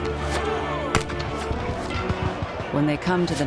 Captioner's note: sounds of battle